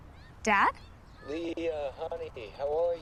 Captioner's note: on phone